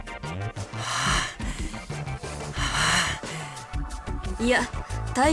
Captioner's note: strained breathing